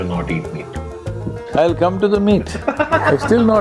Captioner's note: laughter